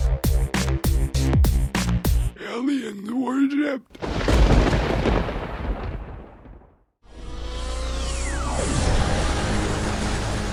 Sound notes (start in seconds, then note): 4.0 thunder crackling